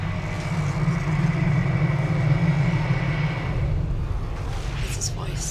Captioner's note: low rumbling